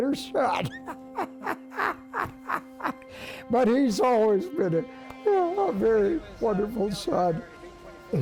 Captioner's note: laughs